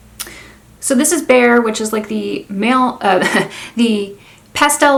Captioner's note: chuckles